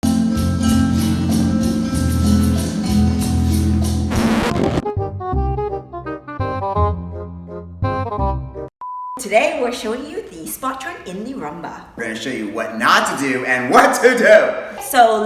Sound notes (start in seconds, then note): 0.0 upbeat music; 3.4 record scratch; 5.1 clarinet music